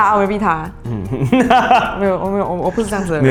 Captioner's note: laughter